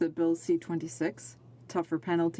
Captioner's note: speaking French